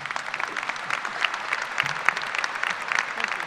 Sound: applause

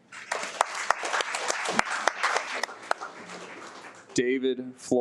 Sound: audience applauds

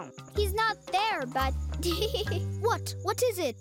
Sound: laughing

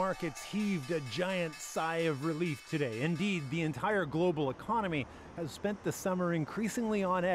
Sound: cheering

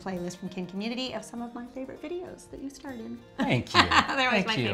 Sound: laughs

